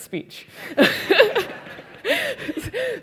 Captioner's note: laugh